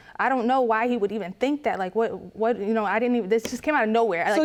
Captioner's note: stammers